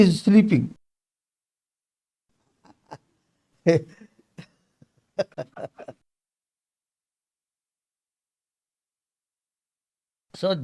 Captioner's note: laughs